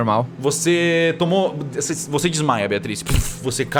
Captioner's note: puff